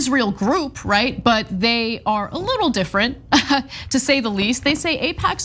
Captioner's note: laugh